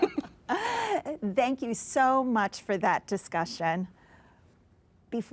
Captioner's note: all laughing